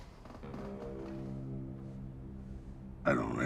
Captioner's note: chair creaks; ominous music